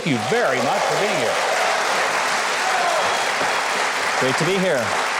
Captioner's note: audience cheering